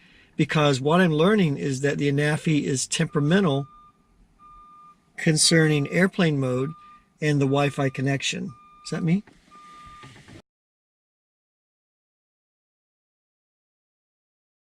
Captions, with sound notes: What I'm learning is that the Anafi is temperamental ---- (Loud beeping outside the car) ...concerning airplane mode and the wifi connection. (Loud beeping continues) Is that me??